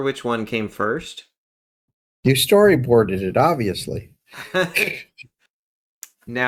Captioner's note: laugh